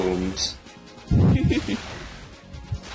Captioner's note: laughs